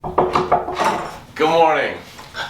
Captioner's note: knock, knock